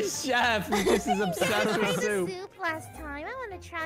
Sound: giggles cute-anime-girly

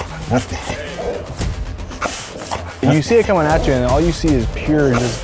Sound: dog growls

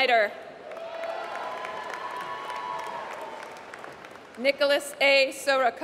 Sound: applause

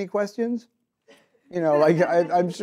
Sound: audience laughs

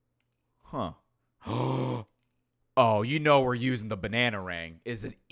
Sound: gasps

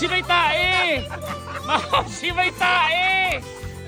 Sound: laughs

